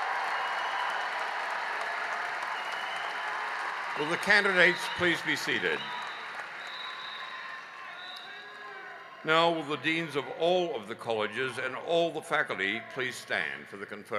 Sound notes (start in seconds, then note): 6.1 cheering and applause